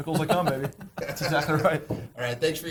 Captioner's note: laughter